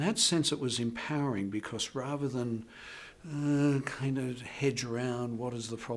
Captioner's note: moans